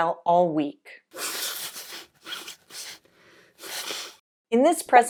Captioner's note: blowing nose